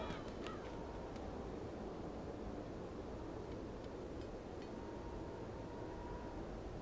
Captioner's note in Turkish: Rüzgâr sesi